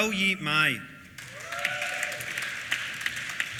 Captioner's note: applause